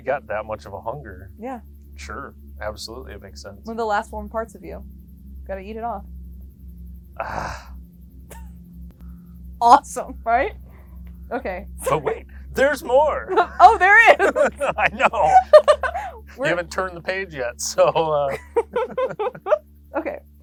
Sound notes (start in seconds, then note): 13.2 both laughing